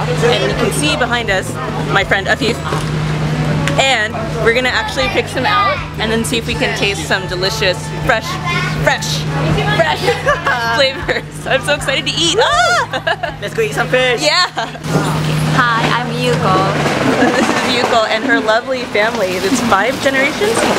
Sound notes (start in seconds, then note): 10.0 laughter; 12.2 giggles